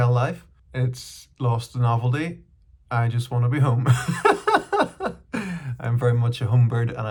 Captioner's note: laughs